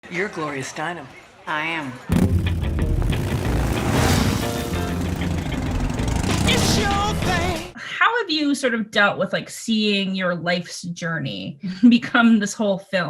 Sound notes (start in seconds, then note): 2.1 motorcycle engine roars; 2.2 upbeat music